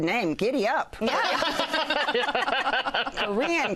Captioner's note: laughter